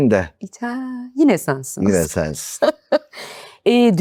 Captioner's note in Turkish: kahkaha